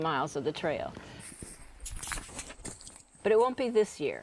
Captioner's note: footsteps